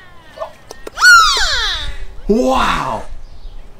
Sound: dolphin squeaking

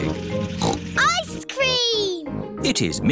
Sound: snorts

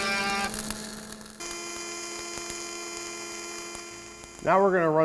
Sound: welder whirring

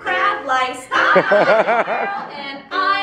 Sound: laughter

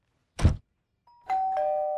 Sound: door closes; doorbell ringing

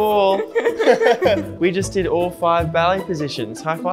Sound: laughs

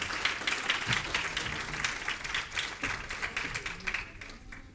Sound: applause

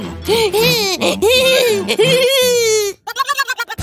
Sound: sounds of euphoria and joy

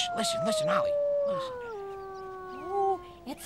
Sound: howling; shushing

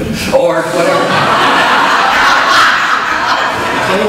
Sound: audience laughs

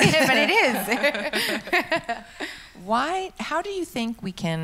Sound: laughs

